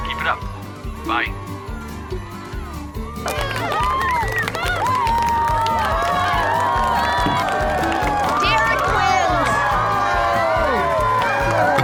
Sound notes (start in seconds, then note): 3.6 cheering, applause